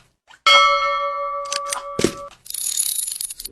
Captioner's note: bell ringing